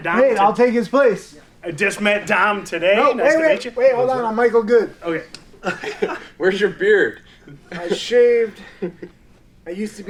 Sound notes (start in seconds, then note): 5.6 laughing; 8.5 chuckles